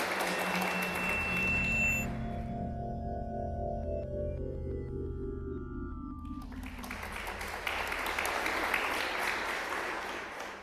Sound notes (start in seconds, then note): 0.3 drone-like music; 6.3 applause